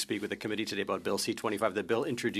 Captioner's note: speaking French